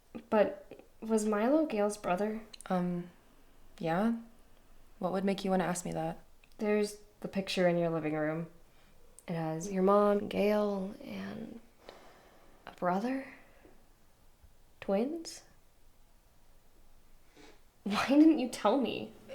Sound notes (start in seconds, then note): none